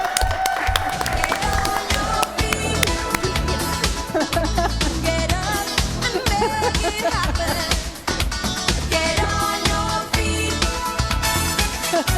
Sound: applause

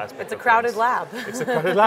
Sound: laughs

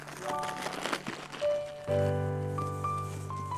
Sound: bag crinkling; gentle music continues

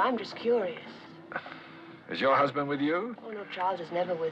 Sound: sighs

